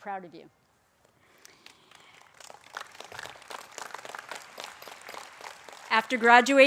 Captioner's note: applause